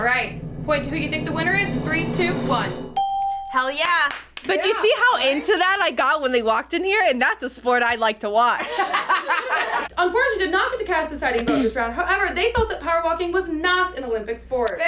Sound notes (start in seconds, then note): 2.9 bell rings; 8.6 everyone laughs